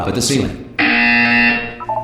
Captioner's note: buzzer